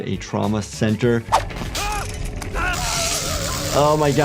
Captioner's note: victim screaming